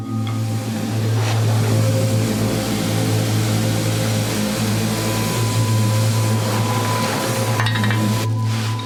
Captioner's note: vacuum cleaner; ominous music